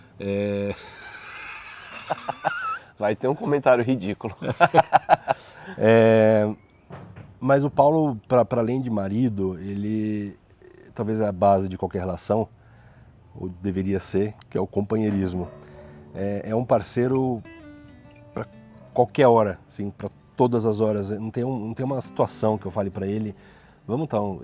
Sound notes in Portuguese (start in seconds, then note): 0.8 risos; 4.2 risos